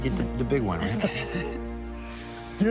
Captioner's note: laughs